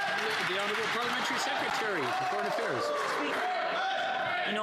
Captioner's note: some Applause